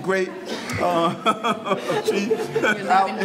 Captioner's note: audience laughing